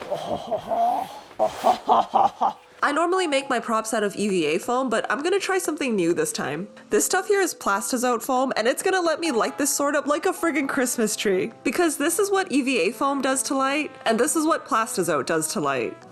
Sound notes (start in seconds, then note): 0.0 french noises intensify; 0.2 french noises